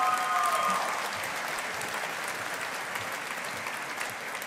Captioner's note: audience applauding